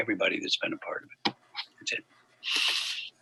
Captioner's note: faintly speaking